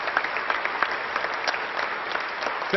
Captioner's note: applause